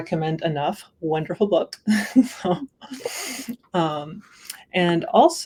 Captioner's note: laughter